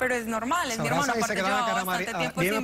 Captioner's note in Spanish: Hablan al unísono